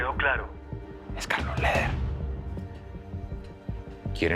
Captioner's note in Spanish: En voz baja